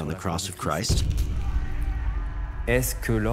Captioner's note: screams